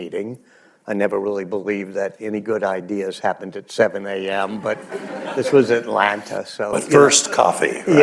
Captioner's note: laughter